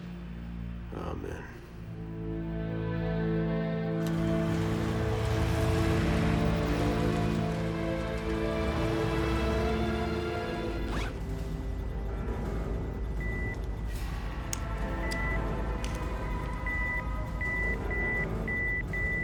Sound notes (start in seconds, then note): 14.4 heart monitor beeping; 16.2 beeping rapidly